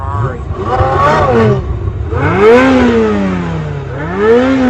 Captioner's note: engine revving